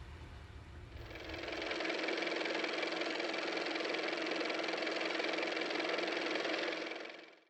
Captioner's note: car motor